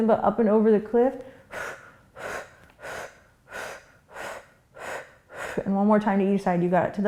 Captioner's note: quick breaths